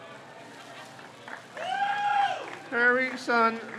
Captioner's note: crowd cheers